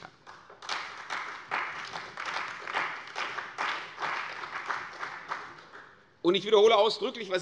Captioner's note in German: Beifall bei der CDU und dem BÜNDNIS 90/DIE GRÜNEN